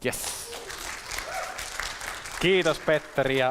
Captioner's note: applause